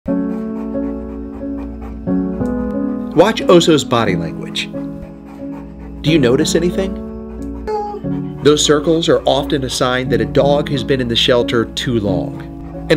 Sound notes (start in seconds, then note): 0.0 dog panting; 0.0 somber piano music